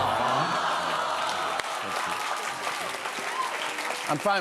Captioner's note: applause